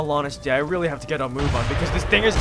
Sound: distant explosion

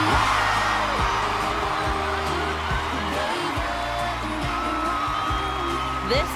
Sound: cheers and applause

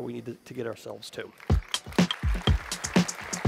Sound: applause

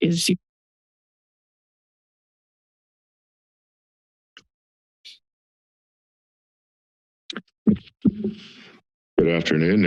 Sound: silence

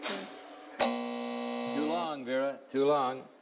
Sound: buzzing

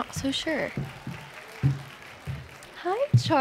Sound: crowd clapping

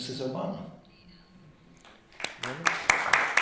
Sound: applause

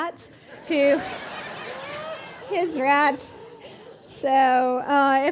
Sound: audience laughing

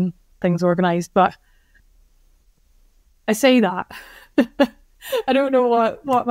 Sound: laughs

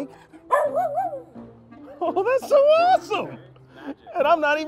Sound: Nanu barks

